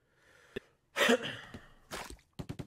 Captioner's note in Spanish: Cof